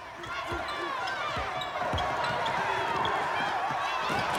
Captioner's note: crowd cheering